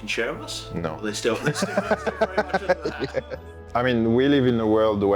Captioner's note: laughs